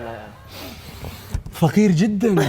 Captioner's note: sniffs